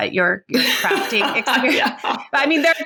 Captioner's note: laughing